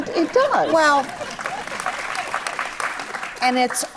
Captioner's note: audience applauds